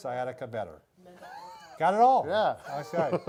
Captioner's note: laughs